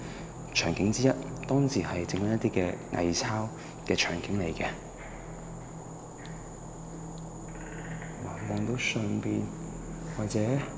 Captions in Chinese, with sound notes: 場景之一 當時在製作一些偽鈔的場景 (動物叫聲) 看到上面 或者...